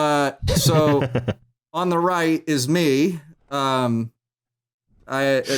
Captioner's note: laughs